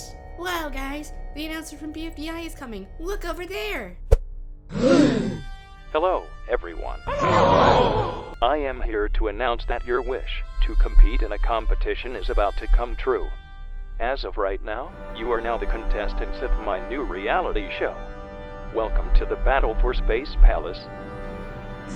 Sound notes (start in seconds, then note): 4.7 everyone gasps